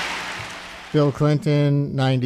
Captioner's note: applause